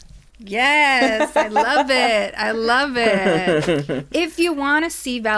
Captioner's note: laughs